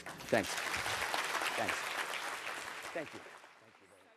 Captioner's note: applause